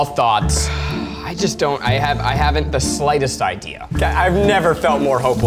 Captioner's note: sighs